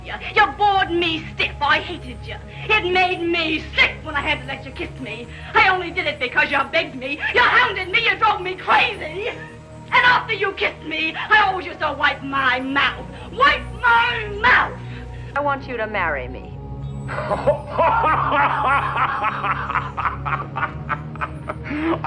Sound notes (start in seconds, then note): 17.0 chuckles; 17.0 laughing hysterically